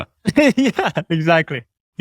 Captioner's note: chuckles